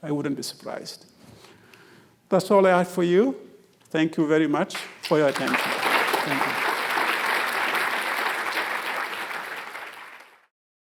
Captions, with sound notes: I wouldn't be surprised. That's all I have for you. Thank you very much for your attention. Thank you. (audience applauding)